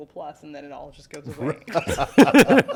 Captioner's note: laughter